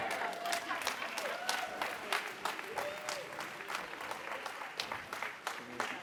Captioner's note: audience applauds and laughs